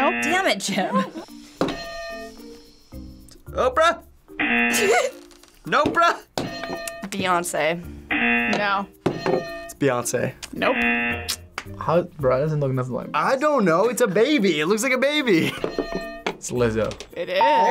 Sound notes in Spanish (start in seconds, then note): 1.7 suena la campana; 4.4 zumbador; 4.7 risas; 8.1 zumbador; 9.2 suena la campana; 15.6 suena la campana